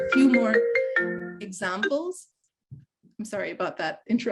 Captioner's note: phone ringing